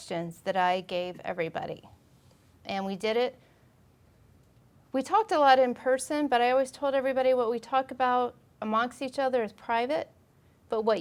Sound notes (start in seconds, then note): none